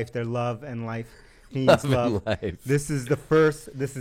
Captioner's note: laughs